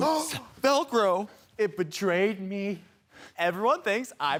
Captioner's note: gasp